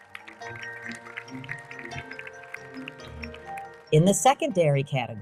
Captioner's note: audience applauding